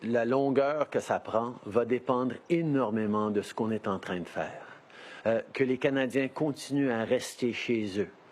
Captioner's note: speaking in French